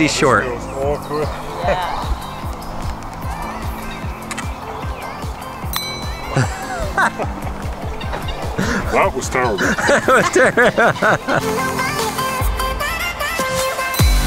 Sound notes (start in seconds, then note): 5.6 bell dings; 6.2 group laughing; 10.1 host laughing; 11.5 upbeat techno music; 14.0 bell dings